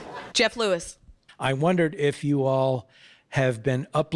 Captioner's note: audience laughing